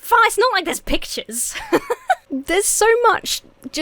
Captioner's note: laughs